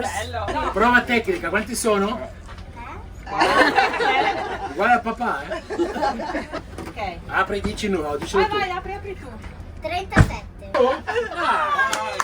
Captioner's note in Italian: Applauso